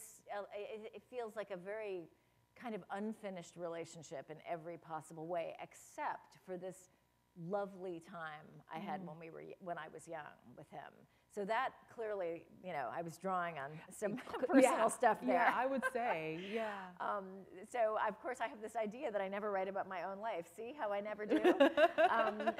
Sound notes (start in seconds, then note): 15.4 laughter